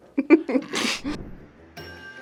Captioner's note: both laugh; playful music